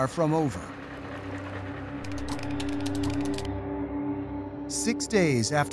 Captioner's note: typing on keyboard